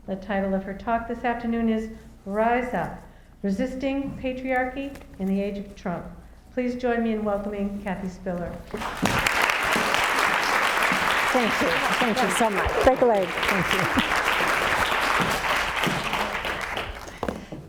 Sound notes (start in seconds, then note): 9.1 audience applauds; 14.3 audience applauds